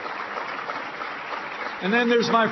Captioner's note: applause